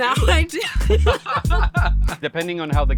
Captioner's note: both laughing